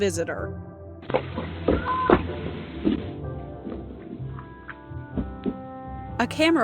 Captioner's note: footsteps